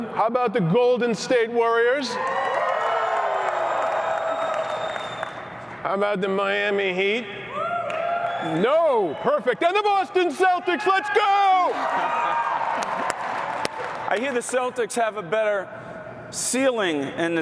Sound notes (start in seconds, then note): 2.1 cheering; 7.5 cheering; 11.5 chuckles; 12.3 cheering